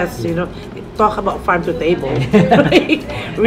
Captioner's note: laughs